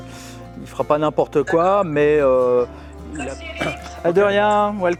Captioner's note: chatter